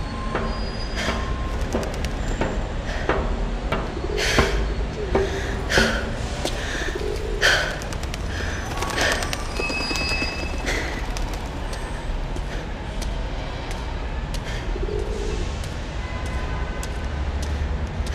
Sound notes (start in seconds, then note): 1.0 loud footsteps; 3.1 gasp; 15.4 pigeon cooing sound